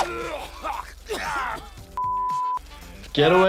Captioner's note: coughing